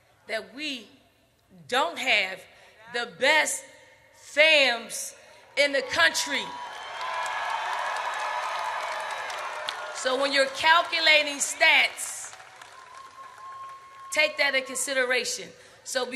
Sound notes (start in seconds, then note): 7.0 audience cheers